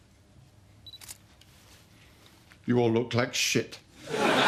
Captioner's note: beep and click